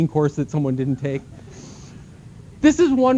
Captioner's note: laughter